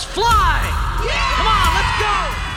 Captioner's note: cheering